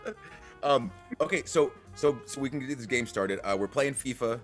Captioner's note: laugh